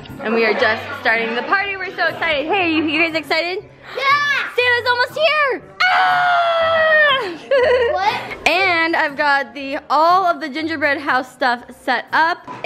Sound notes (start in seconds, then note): 5.8 screams; 6.2 laughs